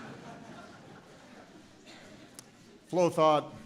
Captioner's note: laughter